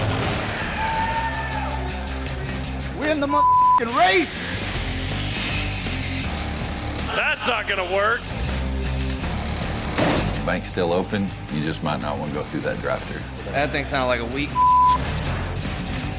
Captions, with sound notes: - We're in the (beep) race. (upbeat music) - That's not gonna work. (upbeat music) - The bank's still open. You just might not want to go through that drafter. - That thing sounded like a weak (beep).